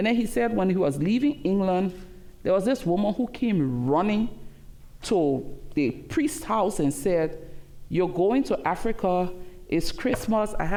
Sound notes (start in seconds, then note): none